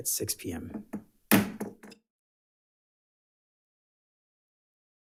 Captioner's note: gavel bangs